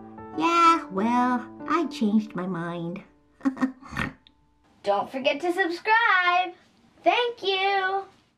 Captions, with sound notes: Yeah. Well. I changed my mind [Laugh, snort] Don't forget to subscribe! Thank you!